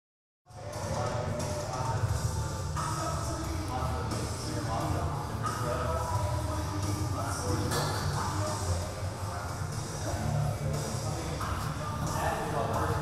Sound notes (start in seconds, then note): 0.0 gym sounds